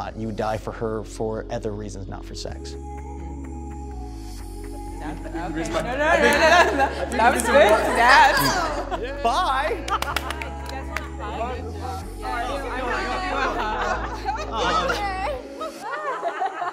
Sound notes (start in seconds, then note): 9.8 hands clapping